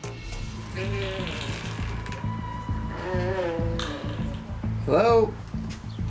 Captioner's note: door creaking; tense music